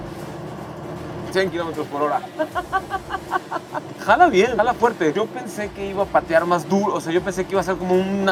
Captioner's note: laughter